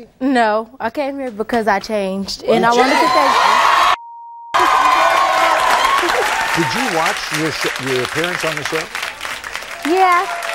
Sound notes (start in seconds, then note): 4.5 audience applauding; 4.5 cheering